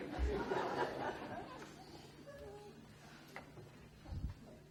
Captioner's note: audience laughs